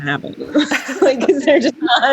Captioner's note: both laughing